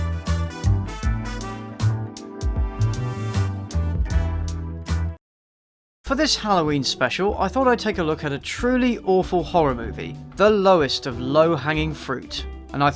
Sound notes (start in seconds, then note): none